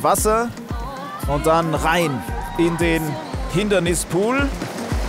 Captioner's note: Jubel